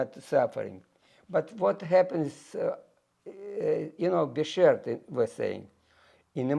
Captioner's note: yiddish